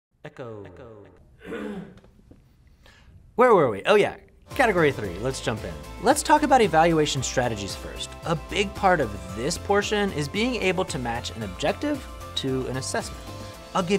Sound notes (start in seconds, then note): 1.4 cameraperson clears throat